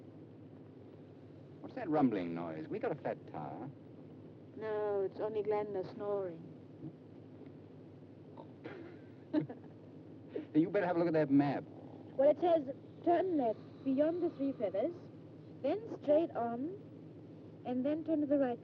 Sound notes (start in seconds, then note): 8.4 Dick and June chuckle